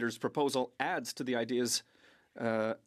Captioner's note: speaking French